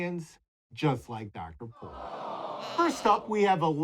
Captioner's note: animals awing